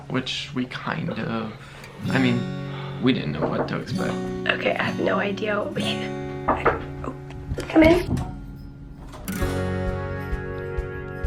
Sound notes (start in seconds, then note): 6.4 knock on door; 9.3 door opening